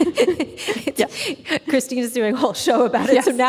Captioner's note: laughing